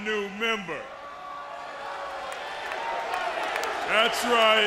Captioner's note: crowd chatter